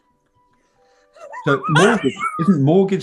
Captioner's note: sniggering; laughter